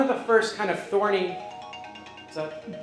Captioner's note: phone ringing